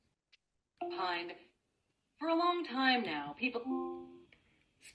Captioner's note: device chimes